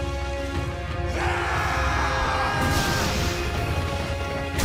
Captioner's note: screaming